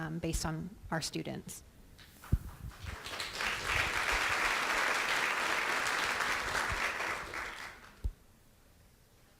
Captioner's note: applause